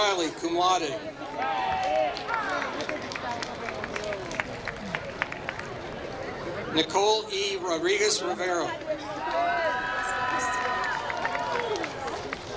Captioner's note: applause